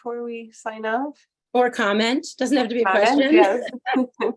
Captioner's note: laughter